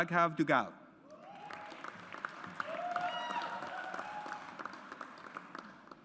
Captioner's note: audience applauds